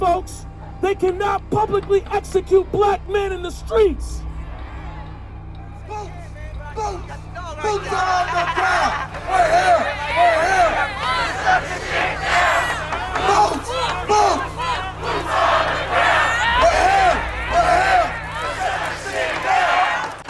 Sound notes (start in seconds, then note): 4.4 crowd agreeing; 6.3 crowd